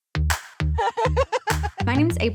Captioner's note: laughs